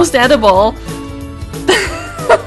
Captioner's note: laugh